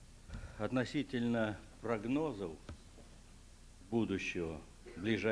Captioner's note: non-english speech